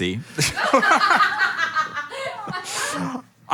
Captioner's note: laughing